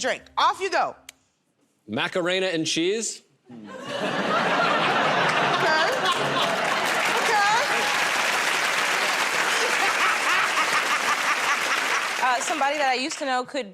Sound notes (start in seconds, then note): 3.6 laughter; 9.3 laughing